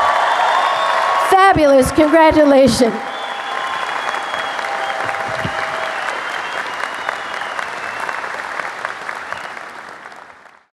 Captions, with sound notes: Fabulous, congratulations! (applause)